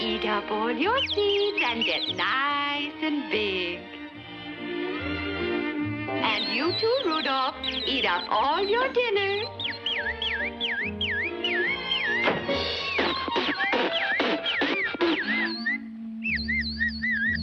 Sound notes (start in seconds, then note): 10.2 singing cheerfully; 12.8 Rudolph spitting; 17.2 singing cheerfully; 17.2 tense music